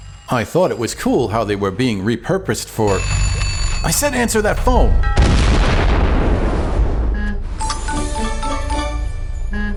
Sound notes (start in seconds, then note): 2.9 ring!; 4.5 boom!